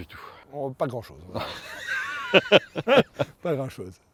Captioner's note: laughs